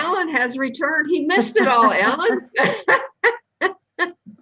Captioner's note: laughs